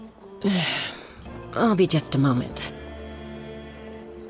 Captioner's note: sigh